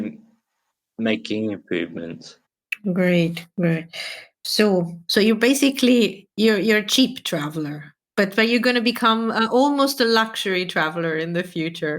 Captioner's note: laughs